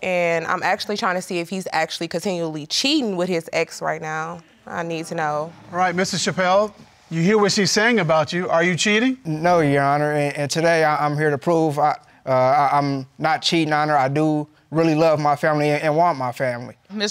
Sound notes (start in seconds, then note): 12.3 stammers